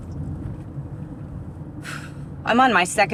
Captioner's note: sighs